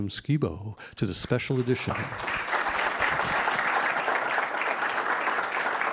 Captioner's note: audience applauding